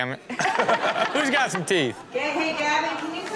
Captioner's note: audience laughing